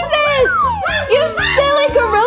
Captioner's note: exciting gorilla sounds